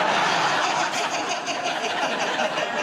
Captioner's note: laughter